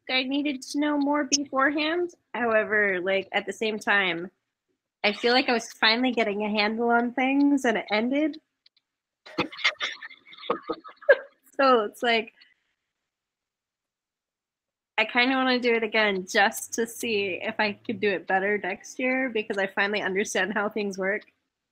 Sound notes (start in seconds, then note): 9.3 laughs